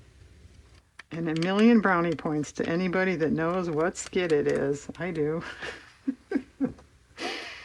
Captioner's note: laughs